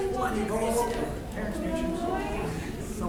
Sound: crowd talking

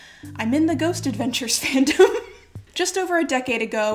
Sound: laughs

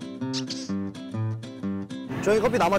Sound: sip

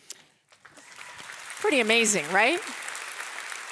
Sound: audience applauding

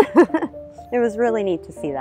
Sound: laughs

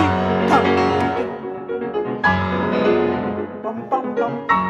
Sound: makes interpretive musical sounds; claps; makes interpretive musical sounds

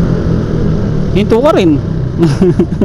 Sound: laugh

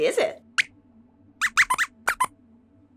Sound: squeaks squeaks

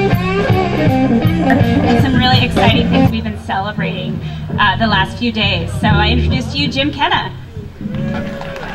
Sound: clapping

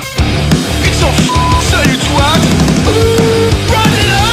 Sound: beep

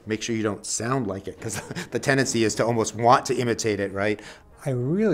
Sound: laughs

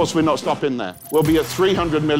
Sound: graphics zips

